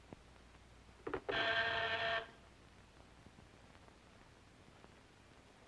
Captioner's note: doorbell buzzing